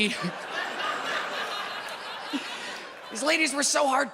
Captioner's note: audience laughs